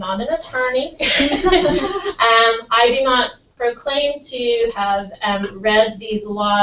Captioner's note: laugh